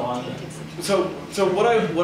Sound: whispering

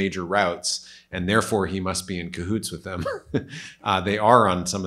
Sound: snickers

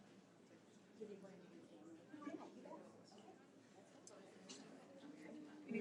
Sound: audience chattering

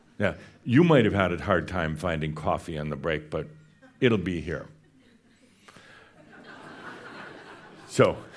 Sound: more chuckles

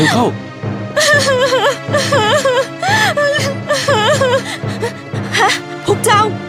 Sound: cry

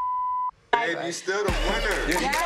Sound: beep

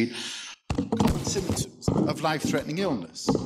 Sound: loud rattling

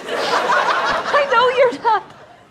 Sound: audience laughter

